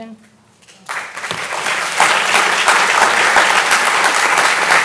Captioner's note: audience applauding